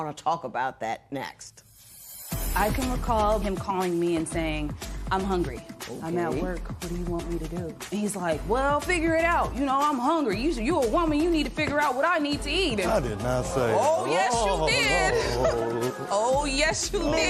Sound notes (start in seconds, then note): 12.8 spectators murmuring